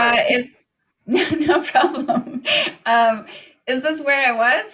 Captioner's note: laughs